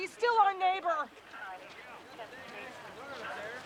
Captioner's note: people chattering